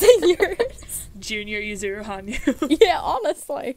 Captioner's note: hosts laugh